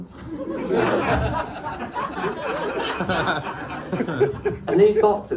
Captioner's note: laughter